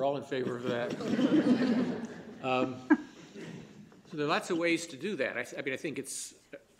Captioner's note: laughter